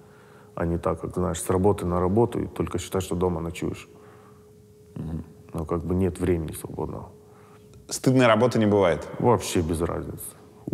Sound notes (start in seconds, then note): none